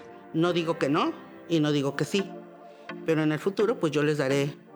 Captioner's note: speaking Spanish